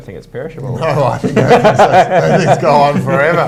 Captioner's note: laughing